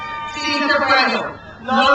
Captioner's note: speaks in foreign language